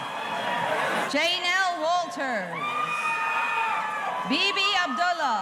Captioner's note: audience cheering